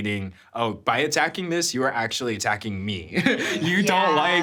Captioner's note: chuckles